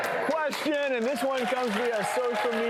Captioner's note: clapping